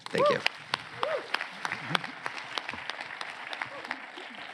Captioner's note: applause